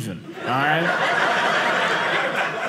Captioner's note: audience laughing